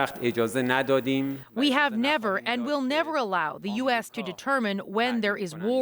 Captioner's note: speaking alternate language